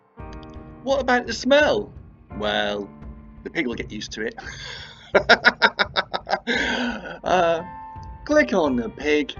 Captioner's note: laughs